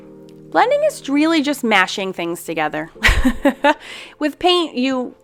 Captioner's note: laughs